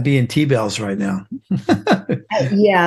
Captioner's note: laughs